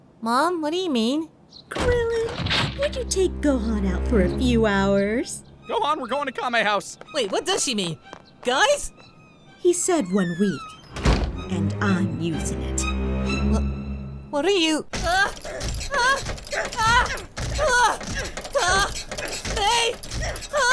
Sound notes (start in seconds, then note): 9.0 door closing; 10.6 door closing; 15.0 aah; 15.1 repetitive / agressive grunting; 18.2 aah; 18.3 huagh; 18.5 repetitive / agressive grunting; 19.2 aah; 19.3 huagh